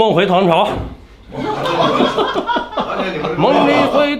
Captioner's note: laughs